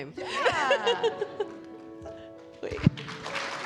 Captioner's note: laughing; audience applauding